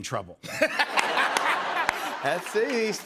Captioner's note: laughter